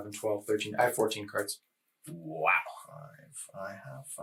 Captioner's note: counting